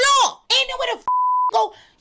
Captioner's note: beep